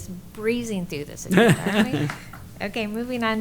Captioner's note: laughter